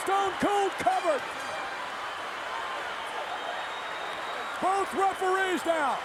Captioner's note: crowd cheering